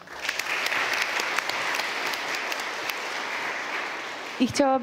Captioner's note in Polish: oklaski